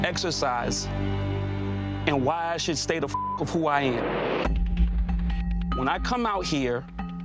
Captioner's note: beep